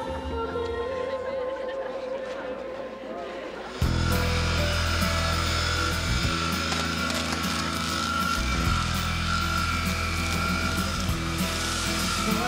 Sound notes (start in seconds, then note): 5.9 grinding; 7.7 welding